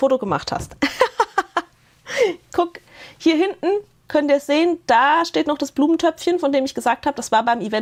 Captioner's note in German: Gelächter